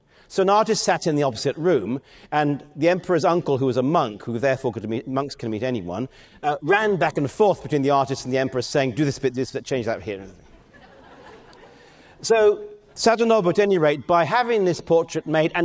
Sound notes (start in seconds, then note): 10.6 audience laughing